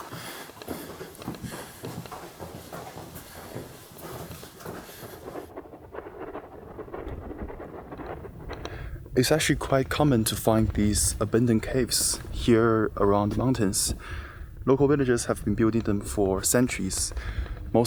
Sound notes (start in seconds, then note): 6.8 wind howling